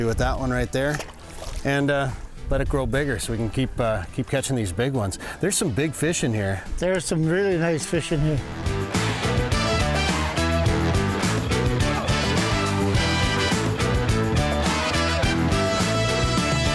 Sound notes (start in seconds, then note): 0.0 water sloshes; 8.6 upbeat music